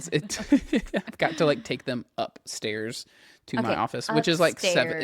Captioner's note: laughs